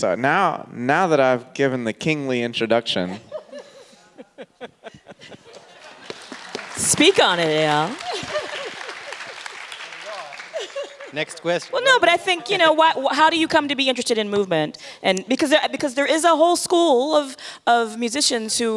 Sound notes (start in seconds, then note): 3.1 everyone laughing; 5.4 audience clapping